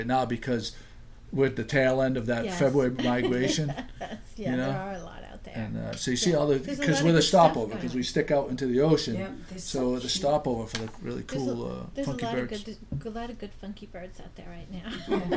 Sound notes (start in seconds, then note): 3.7 voiceover; 12.6 voiceover